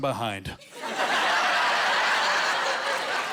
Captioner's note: laughing